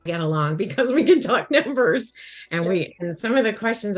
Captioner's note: chuckles